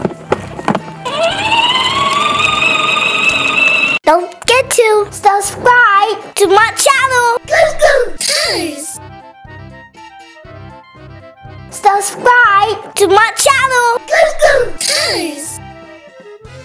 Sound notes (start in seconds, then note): 1.1 motor whirring